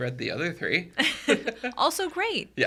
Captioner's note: podcasters chuckling